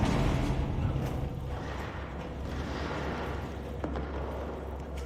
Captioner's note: distant gunshots & explosions